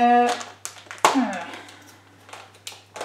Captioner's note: thinking sound